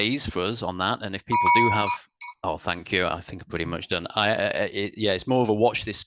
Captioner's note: bell sounds